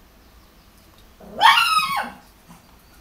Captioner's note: anubis barking